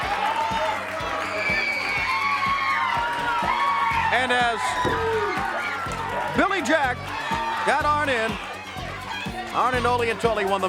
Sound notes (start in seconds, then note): 1.3 crowd cheering